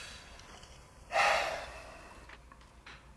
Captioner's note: sigh